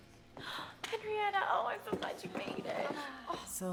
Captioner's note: gasps